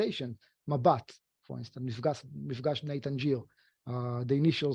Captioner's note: speaking foreign language